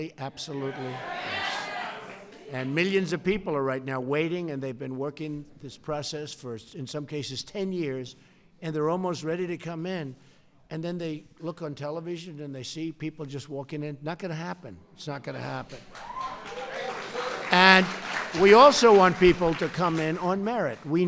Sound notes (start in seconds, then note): 15.6 applause